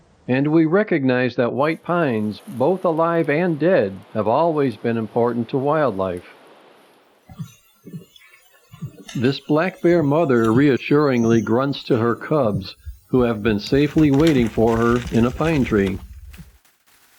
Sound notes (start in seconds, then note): 7.2 bear grunting